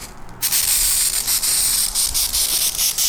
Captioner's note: spraying